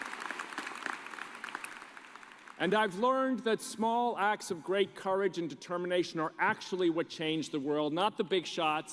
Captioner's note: cheers and applause